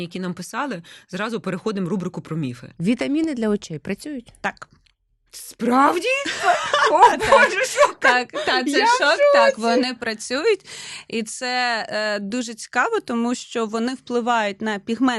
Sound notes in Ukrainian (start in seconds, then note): 6.2 сміх